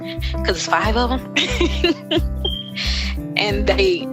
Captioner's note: laughing